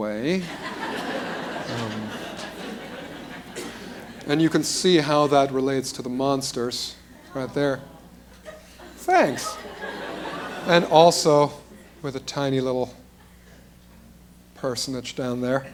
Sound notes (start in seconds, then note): 0.4 laughter; 8.1 appreciative crowd sounds; 9.2 laughter